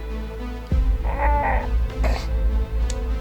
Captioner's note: a horse neighing???